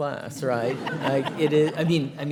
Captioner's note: all laughing